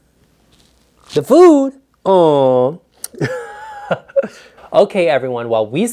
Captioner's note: laughs